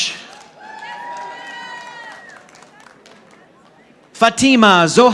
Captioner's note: audience applauding